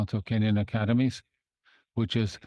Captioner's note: speaking in French